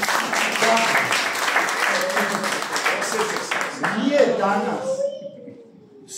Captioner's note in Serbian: аплауз